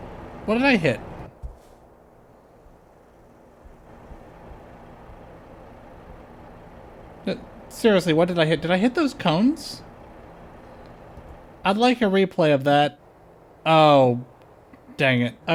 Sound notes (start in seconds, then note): none